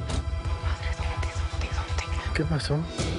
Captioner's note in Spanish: murmura